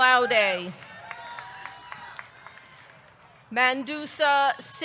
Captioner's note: audience clapping; audience cheering